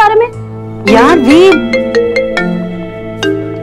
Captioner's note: Phone rings